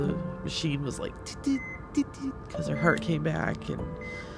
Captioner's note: beeping